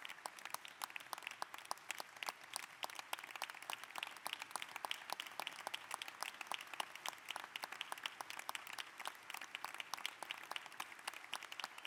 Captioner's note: applause